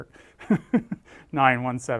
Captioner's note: laugh